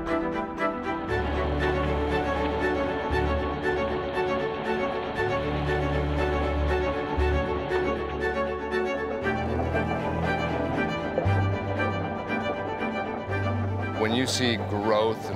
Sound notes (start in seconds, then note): 1.3 water flowing